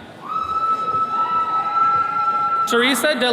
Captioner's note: attendees cheering